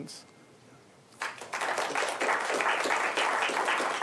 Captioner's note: applause